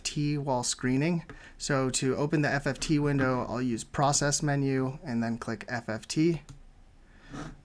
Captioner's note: click